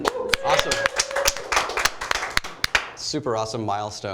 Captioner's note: applause